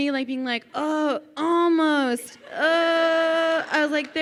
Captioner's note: groans